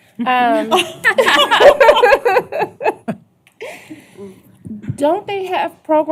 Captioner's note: laughter